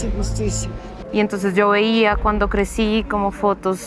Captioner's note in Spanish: Mujer habla